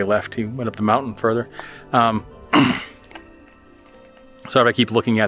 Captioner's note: clearing throat